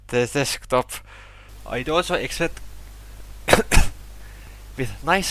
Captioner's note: cough